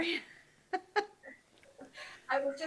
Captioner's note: laughs